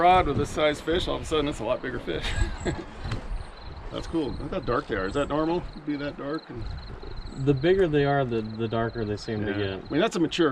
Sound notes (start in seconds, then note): 2.0 chuckling